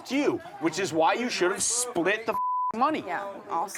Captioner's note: beep